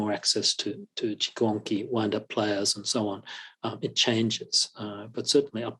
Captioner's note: non-english